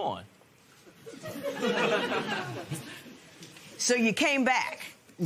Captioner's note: laughter